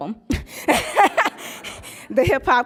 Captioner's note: laughs